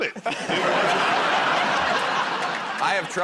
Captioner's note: laughter